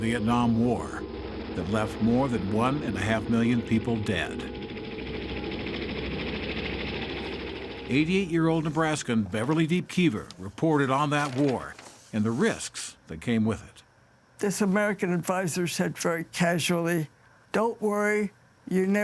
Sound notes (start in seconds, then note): 6.9 helicopter whirring